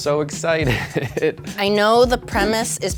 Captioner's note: laughs